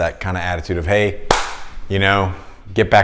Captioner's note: hands clapping